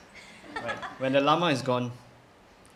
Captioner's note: laughter